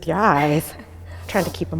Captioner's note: laughing and sniffling